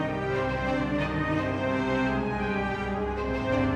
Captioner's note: none